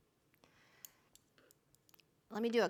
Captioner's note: needles clinking